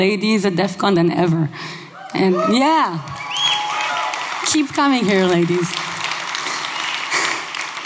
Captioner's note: applause